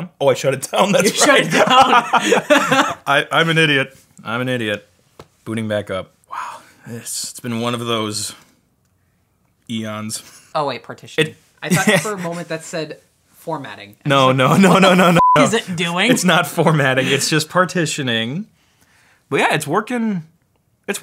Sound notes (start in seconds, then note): 1.0 both laugh; 11.7 laughs; 15.1 beep